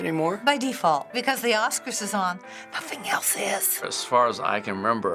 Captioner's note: whispering